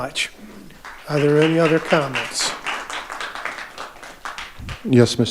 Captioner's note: audience applauding